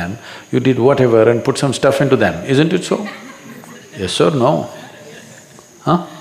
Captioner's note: few laugh